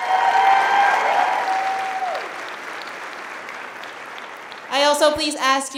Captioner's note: cheers